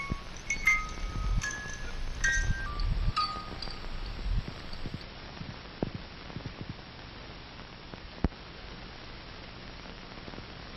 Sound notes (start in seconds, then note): 0.0 music slows to a stop; 3.5 hiss, pops, and clicks